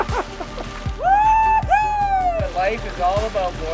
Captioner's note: cheering loudly